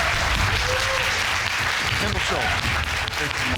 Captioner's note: audience clapping